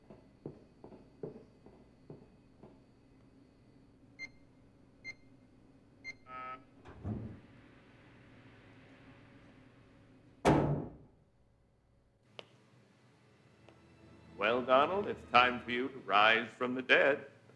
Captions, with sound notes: (keypad beeping) (door buzzes) (solemn music) Well, Donald, it's time for you to rise from the dead.